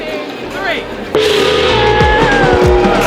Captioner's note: gong ringing; people cheering